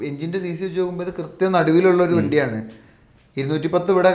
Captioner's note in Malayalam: തൊണ്ട ശരിയാക്കുന്നു